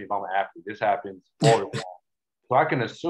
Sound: chuckles

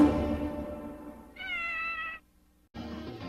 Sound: Mimsie mews

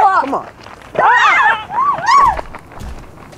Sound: ladies screaming

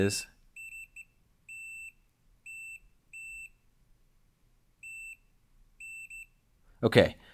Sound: intermittent beeping

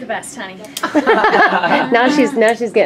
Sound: laughs

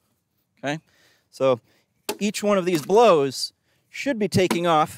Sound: ax thumps wood

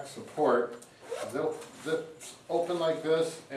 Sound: unzipping zips

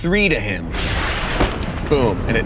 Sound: explosion; thunder

